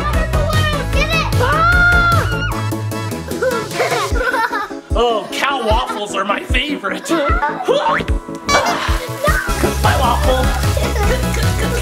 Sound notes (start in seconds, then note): 1.9 screams; 3.2 laughs; 7.1 groans